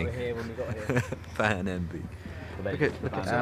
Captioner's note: laughs